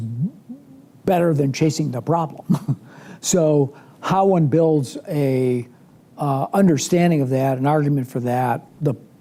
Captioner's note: laughs